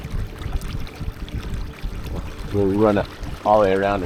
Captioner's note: water lapping gently; suspenseful music continues